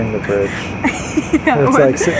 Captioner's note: laughs